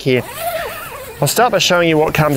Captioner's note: zip hissing